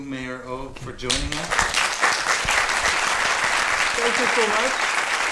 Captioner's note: audience applauding